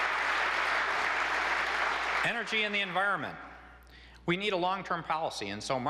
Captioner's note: applause